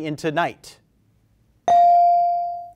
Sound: bell rings

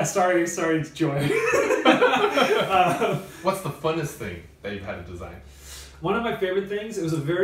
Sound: laughs

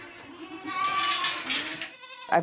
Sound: goats bleating

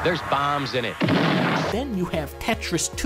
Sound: explotion

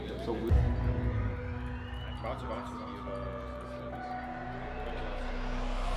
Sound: players chattering; tense music

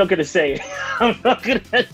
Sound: laughs

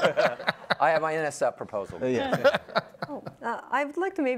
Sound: everyone laughs; panelists laugh

